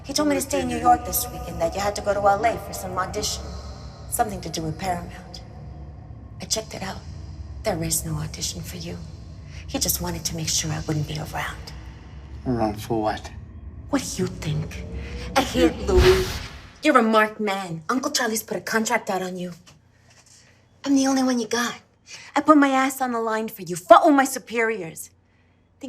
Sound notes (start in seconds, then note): 0.1 voice echoes; 14.0 voice echoes; 16.1 distorted swoosh